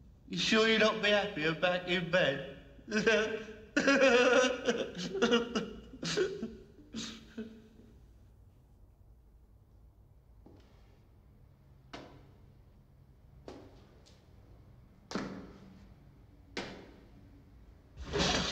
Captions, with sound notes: You sure you'd not be happier back in bed? [Chuckling]